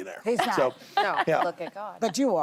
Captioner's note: laughter